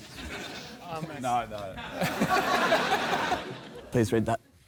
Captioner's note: laughter